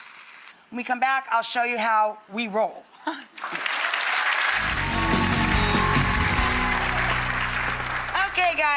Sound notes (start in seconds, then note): 3.2 laughs; 3.4 audience applauds; 4.6 upbeat music